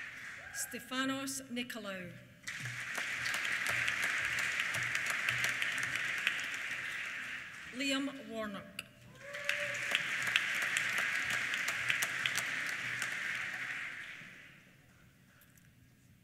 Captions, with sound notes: Stefanos Nikolaou. (APPLAUSE) Liam Warnock. (CHEERS) (APPLAUSE)